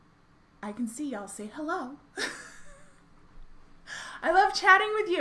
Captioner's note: laughs